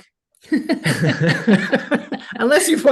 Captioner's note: laughing